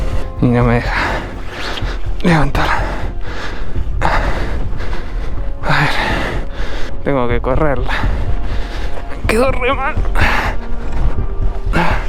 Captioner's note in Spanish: jadeo